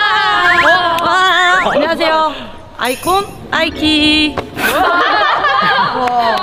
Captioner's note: laughs